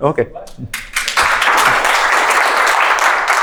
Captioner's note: applause